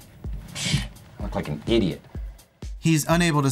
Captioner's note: scoffs